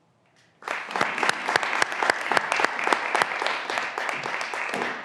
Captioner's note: graduands applauding